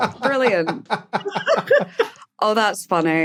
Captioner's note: laugh